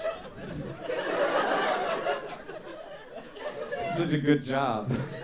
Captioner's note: audience laughing